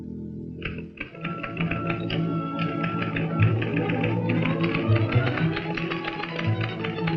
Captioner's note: upbeat orchestral music; typewriter keys clacking